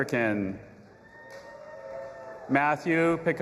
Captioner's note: audience applauding and cheering